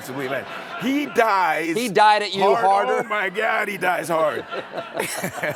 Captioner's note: laughter